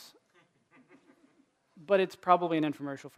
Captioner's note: laughter